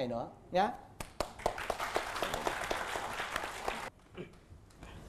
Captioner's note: applause